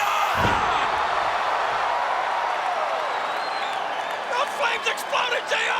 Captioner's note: crowd cheers